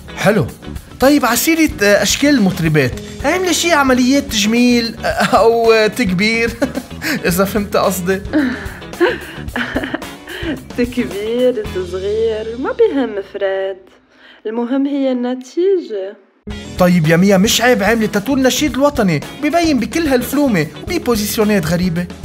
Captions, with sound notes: Nice. Speaking of pop stars, have you done any plastic surgery? Or enhancements or reductions? You know what I mean. *Laughs* Enhancements, reductions, it doesn't matter Fred. What matters is the result. Mia, don't you think it's shameful to have tattooed the Lebanese national anthem, which thus appears in such films and weird positions sometimes?